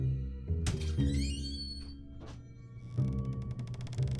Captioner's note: door creaking